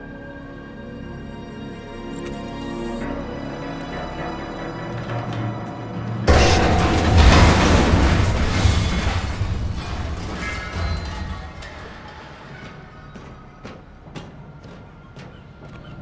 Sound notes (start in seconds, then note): 6.2 loud crash, metal clattering